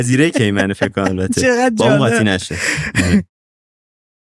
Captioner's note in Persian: خنده